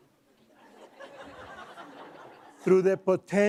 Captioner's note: laughing